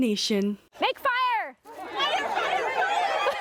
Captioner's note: laughter